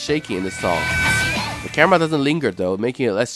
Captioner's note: screams at top of her lungs